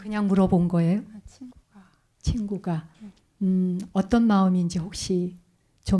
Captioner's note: speaking in Korean